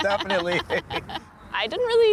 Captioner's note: chuckles